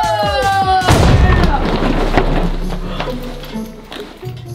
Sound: bang; suspenseful music begins

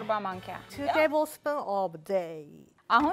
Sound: Amharic

